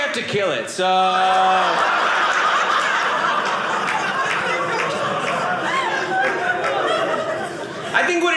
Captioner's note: audience laughing